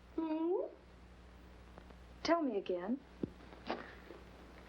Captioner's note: none